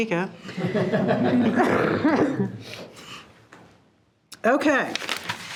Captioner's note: participants laughing